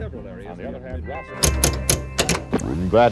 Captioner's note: knob clicking